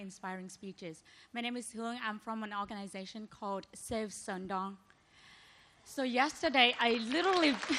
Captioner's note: applause